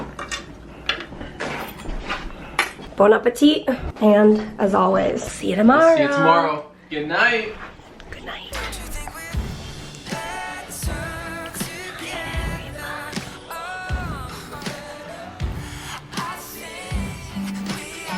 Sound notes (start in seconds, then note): 11.5 whispering